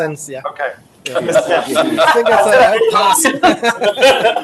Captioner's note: audience laughs